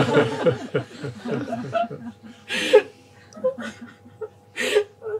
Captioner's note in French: rires